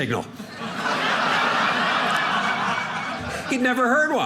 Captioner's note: audience laughing